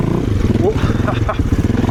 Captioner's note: laughs